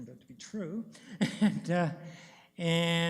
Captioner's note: chuckles